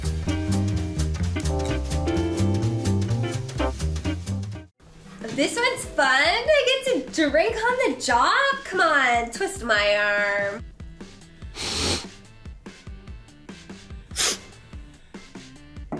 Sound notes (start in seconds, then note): 0.0 jazz music; 11.2 inhales; 14.1 inhales